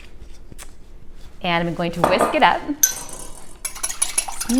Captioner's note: whisk clattering